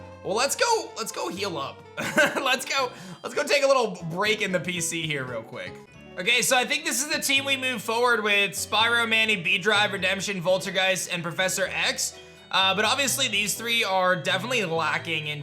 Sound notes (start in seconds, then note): 2.0 chuckles